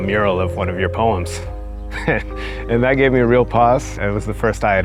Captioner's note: laughs